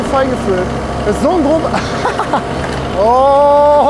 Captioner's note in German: Lacht